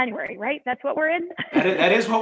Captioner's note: laughter